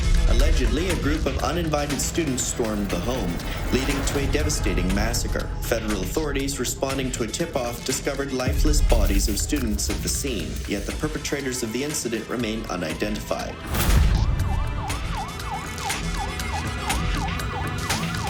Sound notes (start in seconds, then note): 13.4 dramatic music; 13.6 police sirens blaring; 15.5 dramatic music